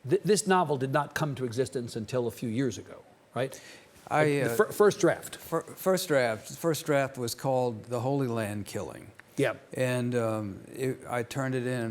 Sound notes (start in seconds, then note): none